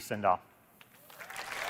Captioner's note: applause